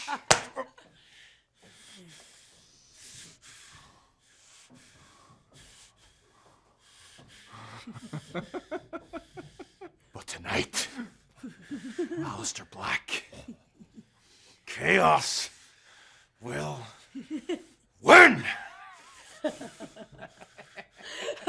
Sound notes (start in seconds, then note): 0.0 laughter; 6.7 breathing hard; 7.6 laughter; 21.2 laughter